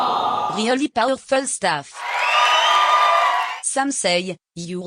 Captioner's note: cheers